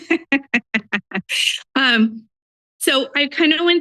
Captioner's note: laughs